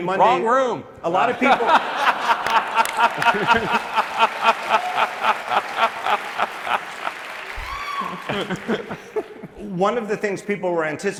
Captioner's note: laughter